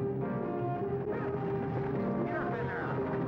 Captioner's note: man shouting